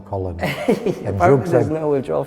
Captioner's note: laughing